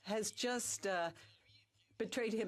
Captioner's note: speaking French